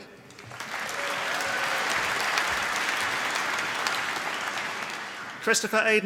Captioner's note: applause